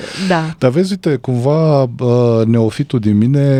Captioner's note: snoring